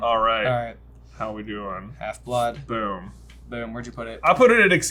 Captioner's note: none